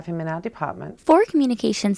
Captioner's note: background talking